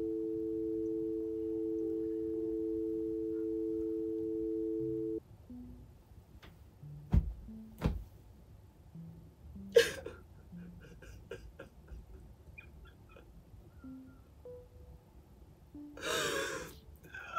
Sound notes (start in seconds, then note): 0.0 phone beeping; 9.7 Leanne sobbing